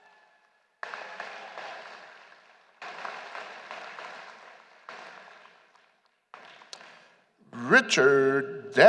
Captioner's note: applause